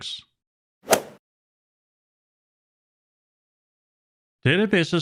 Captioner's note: golf swing sound effect